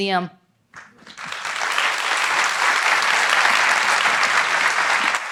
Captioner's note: audience applauds